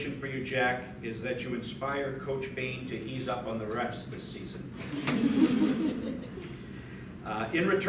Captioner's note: light laughter